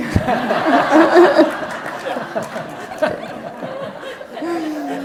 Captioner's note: audience laughs